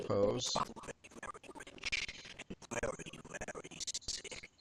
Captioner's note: audio skipping